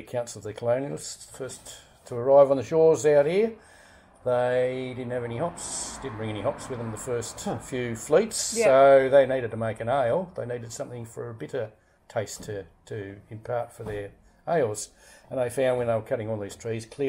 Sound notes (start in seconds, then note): none